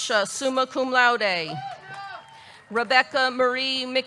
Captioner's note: audience cheering; audience clapping